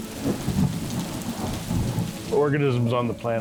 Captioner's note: rain pours